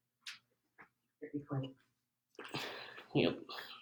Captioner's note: woman speaking faintly